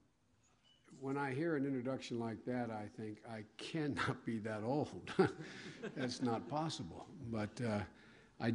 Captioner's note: laughter